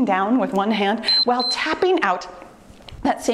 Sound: timer beeps

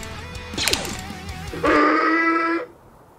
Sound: Tuskan Raider roar

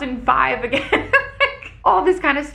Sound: laughs

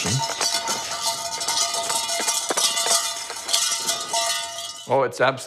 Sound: metal clanging

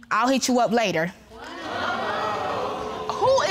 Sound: audience exclaiming

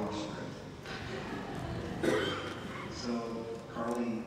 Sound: laughter

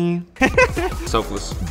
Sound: laughs

